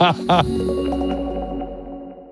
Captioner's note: laughing; upbeat music